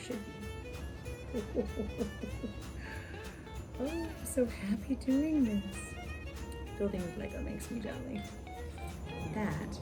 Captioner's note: ho-ho-ho chuckles